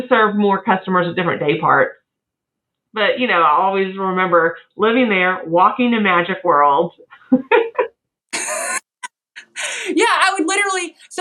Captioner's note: laugh